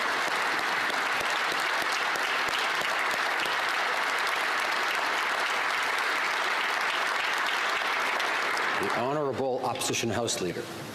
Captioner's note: some Applause